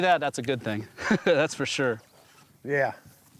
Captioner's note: laughs